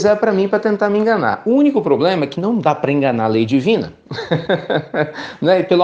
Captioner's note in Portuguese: risos